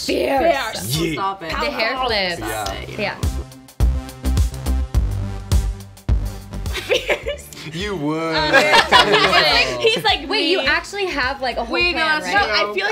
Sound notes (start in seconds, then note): 4.0 upbeat music; 8.4 laughs